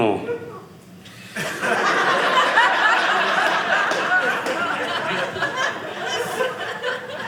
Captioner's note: audience laughing